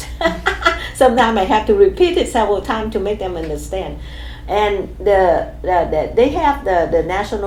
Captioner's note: laughs